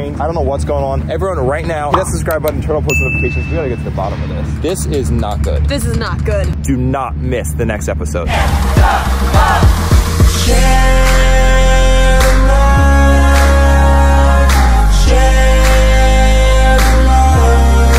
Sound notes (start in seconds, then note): 8.3 crowd; 9.7 rhythmic music